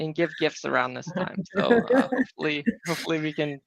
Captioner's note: chuckling